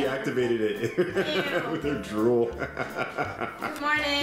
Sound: laughs

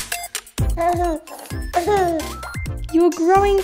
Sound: baby noise

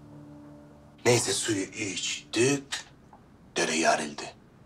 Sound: speaks with the Black Sea dialect

